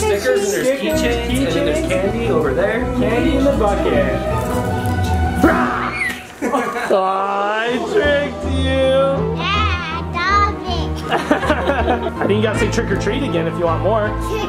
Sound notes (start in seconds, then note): 5.5 screams